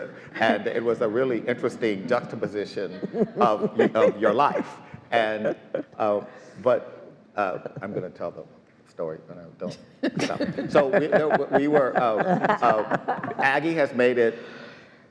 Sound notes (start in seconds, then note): 10.2 laughs